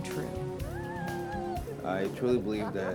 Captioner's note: Elsa laughs